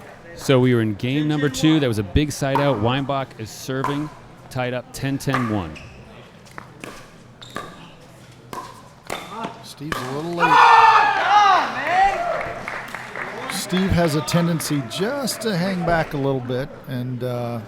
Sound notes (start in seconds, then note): 5.4 shoes squeaking; 6.0 ball being hit; 10.6 player yelling; 11.6 applause